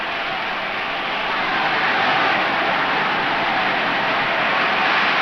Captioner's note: crowd cheers